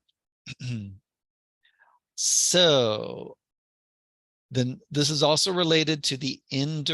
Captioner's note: cough